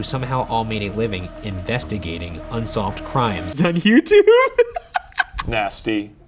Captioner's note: laughing